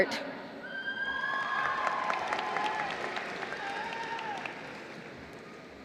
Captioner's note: applause